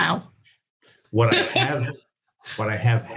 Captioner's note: laughs